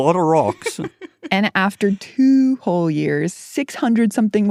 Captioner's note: laughs